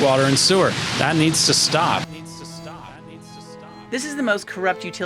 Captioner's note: echoes